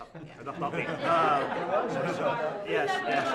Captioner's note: laughter